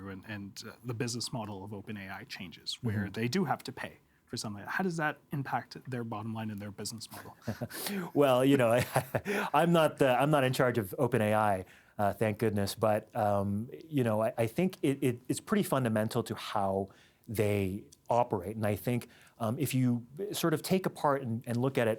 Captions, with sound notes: and the business model of OpenAI changes where they do have to pay for some of, how does that impact their bottom line in their business model? Well, you know-- (Laughing) I'm not-- I'm not in charge of OpenAI, thank goodness, but, um, you know, I think it's pretty fundamental to how they operate and I think if you sort of take apart and look at it